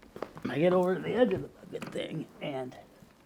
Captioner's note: seat crunching